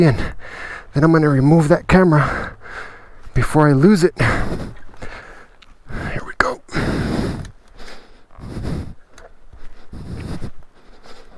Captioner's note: grunt